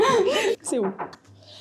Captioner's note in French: Toc toc toc